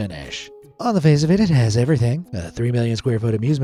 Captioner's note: in quickfire narration